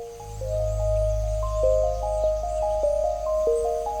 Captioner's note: birds chirping